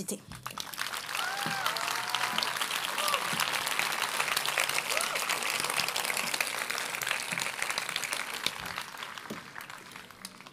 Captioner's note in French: Applaudissements